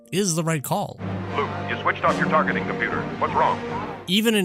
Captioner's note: deep voice over comms